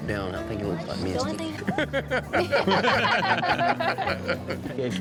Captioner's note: laughter